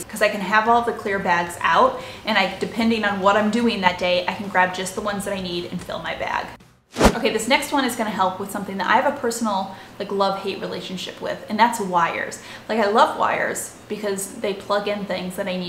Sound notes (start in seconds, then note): 6.9 air whooshing